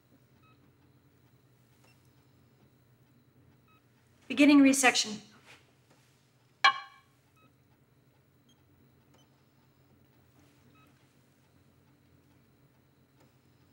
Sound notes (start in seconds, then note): none